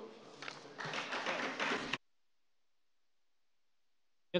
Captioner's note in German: Beifall bei Abgeordneten der CDU